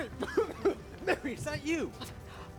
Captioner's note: coughing